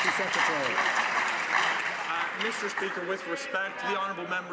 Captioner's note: some Applause